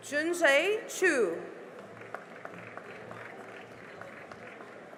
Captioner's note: cheering and applause